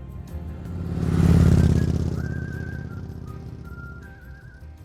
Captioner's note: motorbike roars